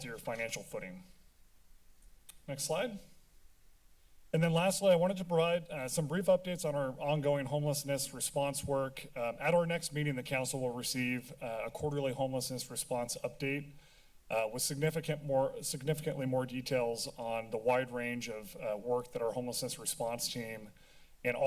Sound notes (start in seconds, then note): 3.0 silence